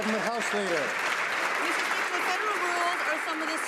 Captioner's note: some Applause